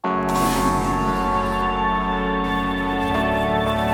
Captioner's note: gunshot